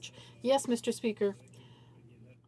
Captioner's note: speaking French